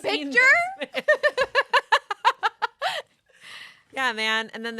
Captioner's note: everyone laughs